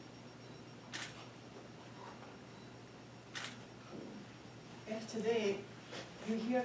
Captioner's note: camera clicking continues